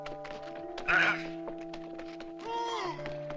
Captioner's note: grunting